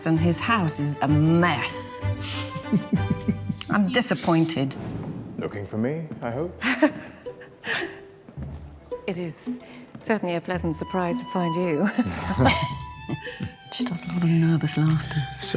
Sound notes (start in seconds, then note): 7.1 giggling; 11.8 chuckling